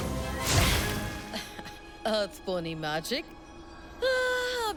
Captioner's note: chuckling